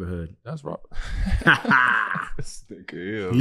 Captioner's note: Kwame laughing